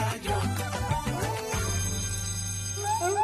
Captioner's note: school bell rings; playful music